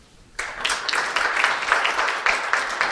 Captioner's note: applause